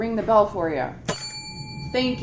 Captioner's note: bell